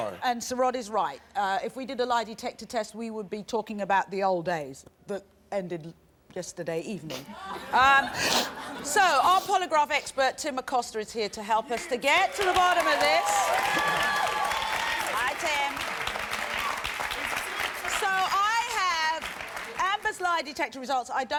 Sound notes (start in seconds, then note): 7.3 laughter; 13.1 applause